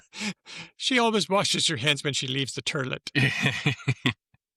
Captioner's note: laughs